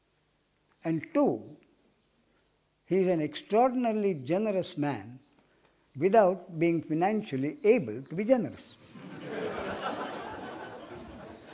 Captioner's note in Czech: smích